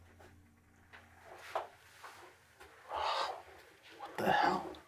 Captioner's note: none